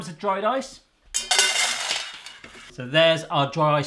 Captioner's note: ice hits bowl